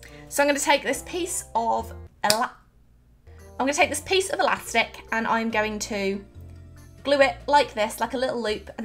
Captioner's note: snap